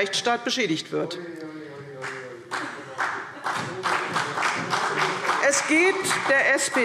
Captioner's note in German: Beifall CDU